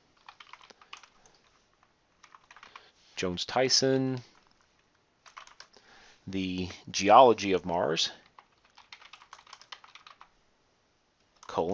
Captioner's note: typing; typing